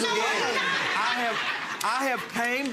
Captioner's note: audience laughing